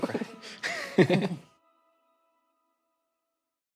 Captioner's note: laughing